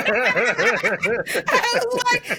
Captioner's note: laughing